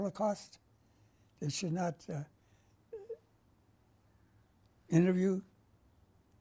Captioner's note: pauses for 3 seconds